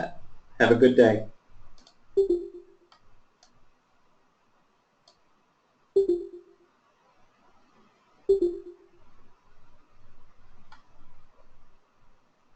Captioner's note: silence